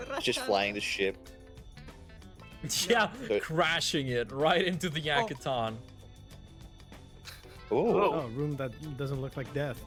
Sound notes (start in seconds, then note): 3.3 laughs